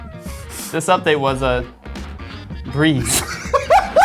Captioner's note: laughs